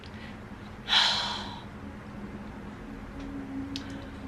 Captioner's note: sighs